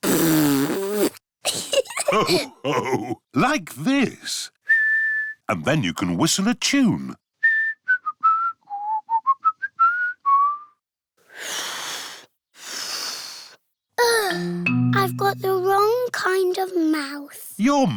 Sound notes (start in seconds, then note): 0.0 blows raspberry; 1.5 laughter; 4.6 whistles; 7.4 whistles a tune; 11.4 failed whistle; 14.0 sighs